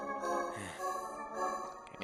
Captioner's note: sigh